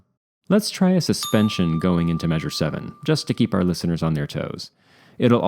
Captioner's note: ding